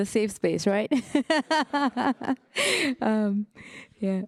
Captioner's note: laughing